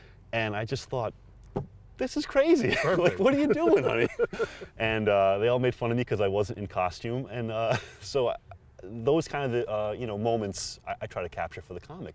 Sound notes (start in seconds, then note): 2.6 laughter